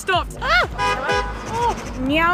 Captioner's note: car horn